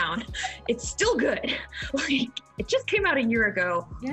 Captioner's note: laughs